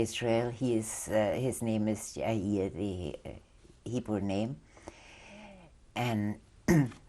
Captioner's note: non-english